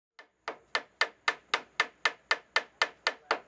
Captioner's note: hammering